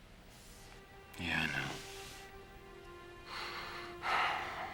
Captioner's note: sighing